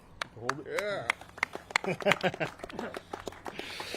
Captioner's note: all clapping